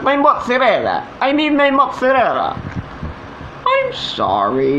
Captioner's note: in Italian Accent